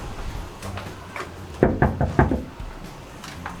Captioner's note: knocking